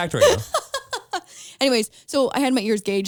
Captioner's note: laughs